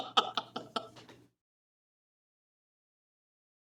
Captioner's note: laughs